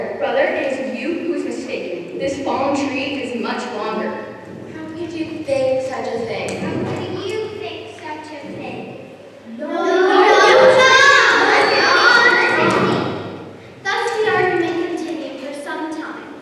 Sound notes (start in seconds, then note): 9.4 arguing